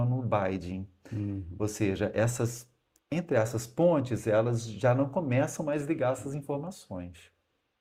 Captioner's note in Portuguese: limpando a garganta